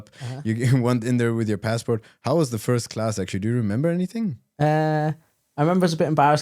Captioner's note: laughs